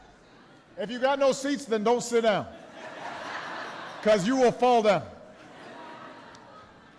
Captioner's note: laughter